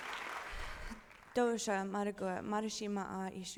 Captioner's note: speaking her language